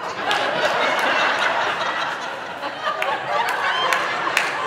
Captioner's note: audience laughing